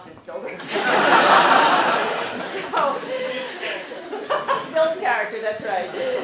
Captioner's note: laugh